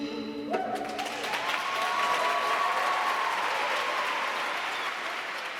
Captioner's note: audience cheering and applauding